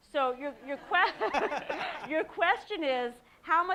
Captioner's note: audience laughing